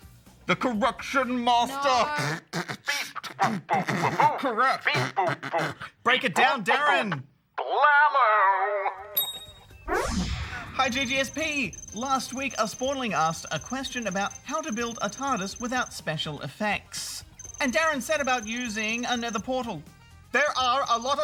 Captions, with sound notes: The Correction Master... No. (BEATBOXES POORLY) Beep! Boop-boop-boop-boop! Correct! (BEATBOXES) Beep, boop-boop. Break it down, DARREN. Blammo!